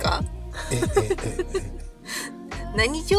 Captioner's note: laughs